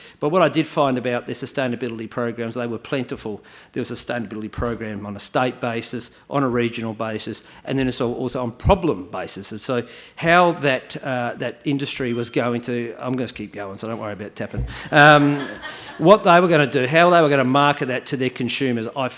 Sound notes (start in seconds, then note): 12.0 glass clinking; 14.8 audience member laughing